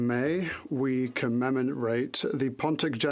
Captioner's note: speaking French